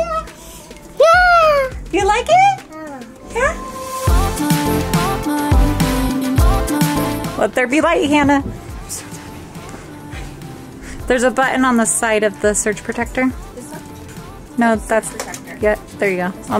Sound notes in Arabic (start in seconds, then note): 1.0 طفل يصرخ فرحا; 4.3 موسيقى مبهجة